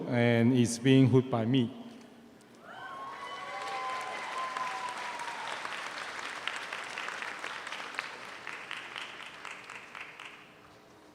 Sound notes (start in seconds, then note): 2.7 audience cheers; 3.0 audience applauds